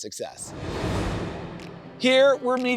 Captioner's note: transition whooshes